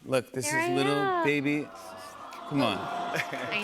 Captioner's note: audience aws